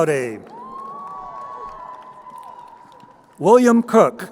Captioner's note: crowd cheering